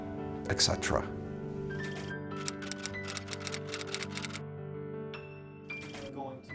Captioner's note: typewriter keys